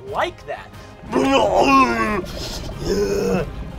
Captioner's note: monstrous grunting